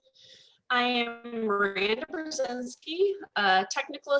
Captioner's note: audio distorts